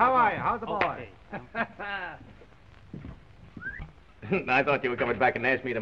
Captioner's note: men laughing